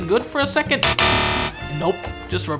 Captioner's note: buzzer